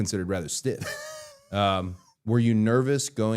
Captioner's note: Matt laughing